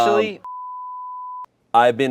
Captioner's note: beep